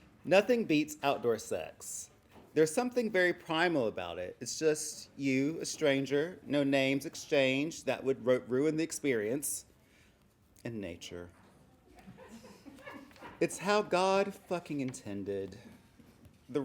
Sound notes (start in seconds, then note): 11.9 laughing